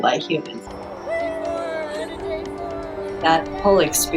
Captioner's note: cheering